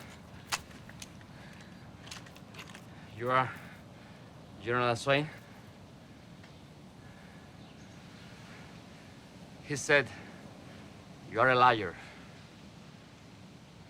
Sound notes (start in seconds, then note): none